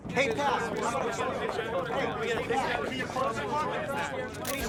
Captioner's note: reporters chattering